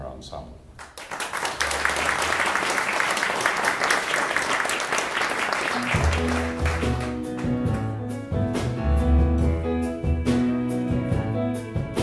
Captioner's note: applause